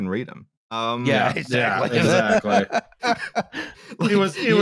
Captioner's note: laughs